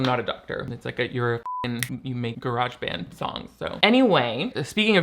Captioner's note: beep